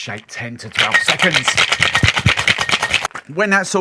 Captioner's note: ice clinking